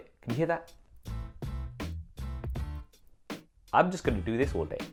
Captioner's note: faint clicking